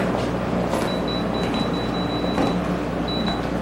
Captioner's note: phone beeping